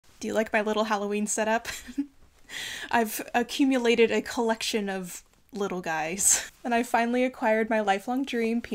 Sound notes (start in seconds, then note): 1.7 chuckles